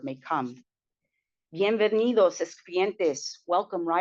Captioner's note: spanish